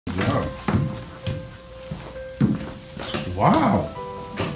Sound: footsteps

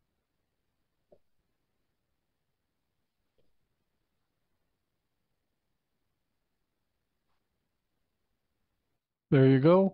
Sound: silence

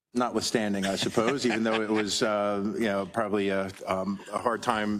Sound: laugh

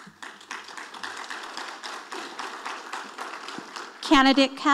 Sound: audience applauding

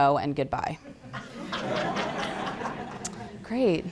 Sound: laughter

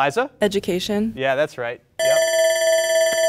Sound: bell rings

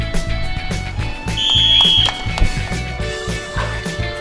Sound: upbeat rock music; whistling

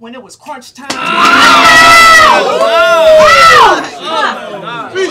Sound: audience screams

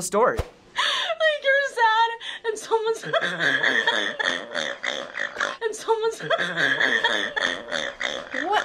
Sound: laughing

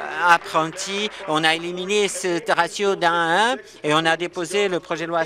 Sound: applause

